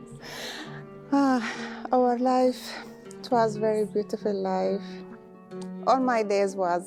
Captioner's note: sighs; giggles